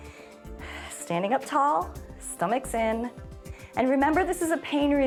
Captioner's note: inhales and exhales